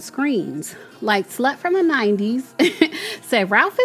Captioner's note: chuckles